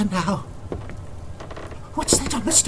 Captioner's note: whispers; footsteps creak